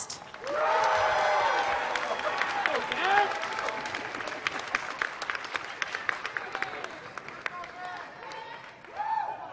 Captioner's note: applause